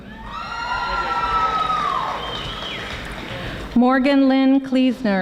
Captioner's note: audience applauding